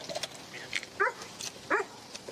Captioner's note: dog barks